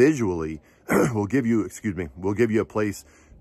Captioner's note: clears throat